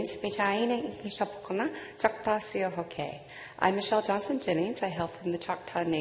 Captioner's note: speaking non-english